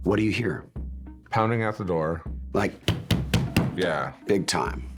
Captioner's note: pounds table